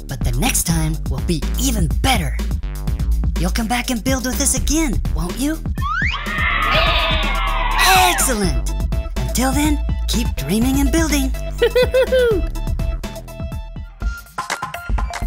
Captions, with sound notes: but the next time will be even better. You'll come back and build with us again, won't you? (children cheering) (sheep baa) - Excellent! Until then, keep dreaming and building. (Dr. McTinker laughs)